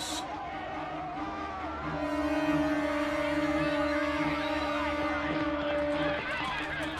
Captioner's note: suspenseful music continues; crowd clamoring